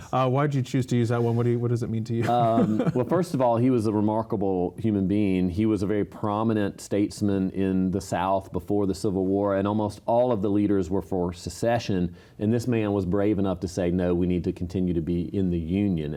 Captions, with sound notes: Why did you choose to use that one? What does it mean to you? [laughter] Mayor Sheheen> Well, first of all, he was a remarkable human being. He was a very prominent statesman in the South before the Civil War. And almost all of the leaders were for secession, and this man was brave enough to say "no, we need to continue to be in the Union."